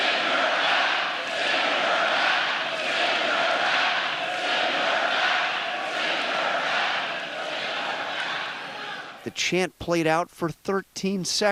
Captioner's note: chanting "send her back"